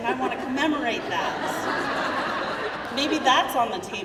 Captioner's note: crowd laughing